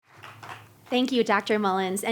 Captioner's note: scattered applause